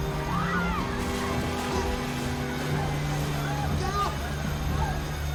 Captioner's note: women screaming